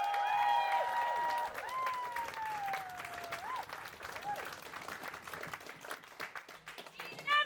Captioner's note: applause